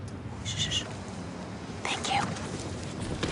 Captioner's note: mom, whispering; associate, whispering